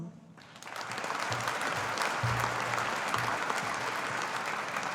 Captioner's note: audience applauding